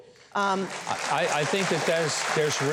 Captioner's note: audience applause